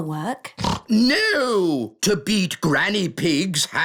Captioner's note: snorts